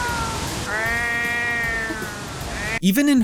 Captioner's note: meow